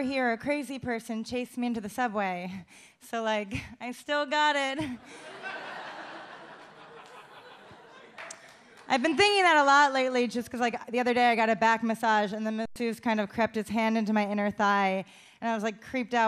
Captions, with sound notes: "a crazy person chased me into the subway." So, like, I still got it. (audience laughs) I've been thinking that a lot lately just 'cause like the other day, I got a back massage and the masseuse kind of crept his hand into my inner thigh and I was like creeped out.